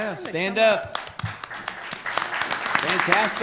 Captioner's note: applause